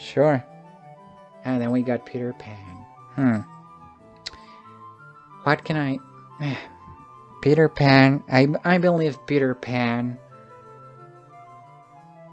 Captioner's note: sigh